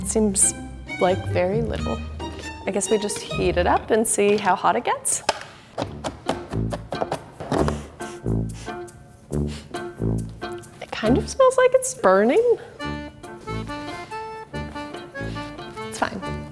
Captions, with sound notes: That seems like very little. I guess we just heat it up and see how hot it gets? (chopping) (playful music) It kind of smells like it's burning? (playful music) It's fine.